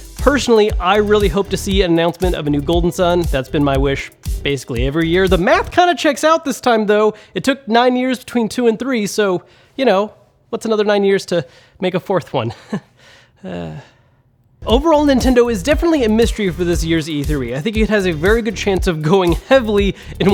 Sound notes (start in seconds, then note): 12.5 chuckles; 13.4 sighs